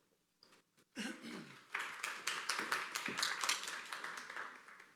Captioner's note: applause